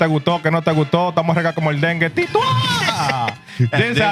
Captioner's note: laughter; speaking Spanish